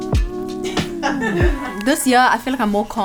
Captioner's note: crew laughing